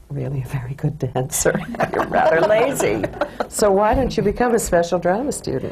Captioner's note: she laughs